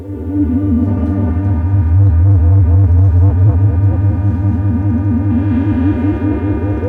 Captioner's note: electric whirring